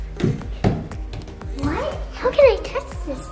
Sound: upbeat music; thudding on stairs

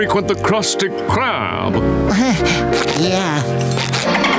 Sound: chuckles

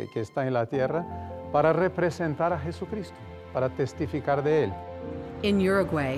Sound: speaks Spanish

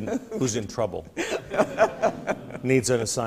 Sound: laughs

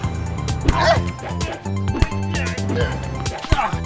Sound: grunting

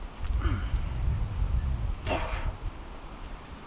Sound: grunting

